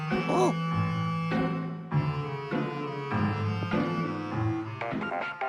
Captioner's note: ahem